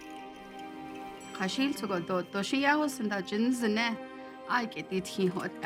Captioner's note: speaking Navajo